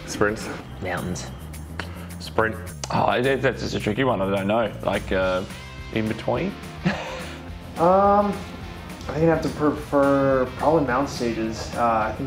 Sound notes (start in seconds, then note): 6.8 laughing